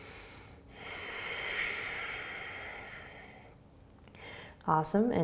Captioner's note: exhaling; inhaling